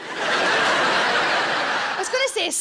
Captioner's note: audience laughing